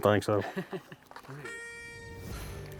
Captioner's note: laughing